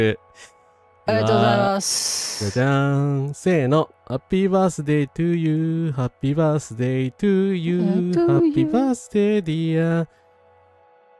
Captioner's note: sniff